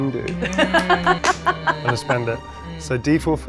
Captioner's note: laughs